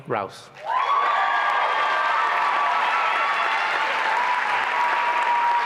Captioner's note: applause and cheering